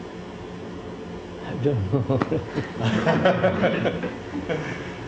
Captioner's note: laughter